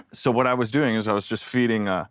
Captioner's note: none